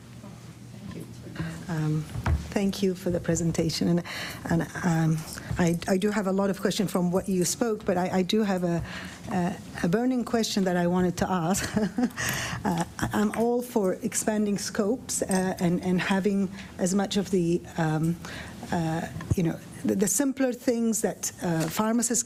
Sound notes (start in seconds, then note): 11.6 laughter